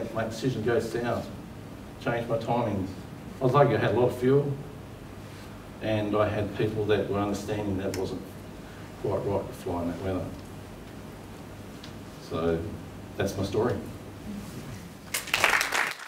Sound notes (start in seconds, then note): 15.0 applause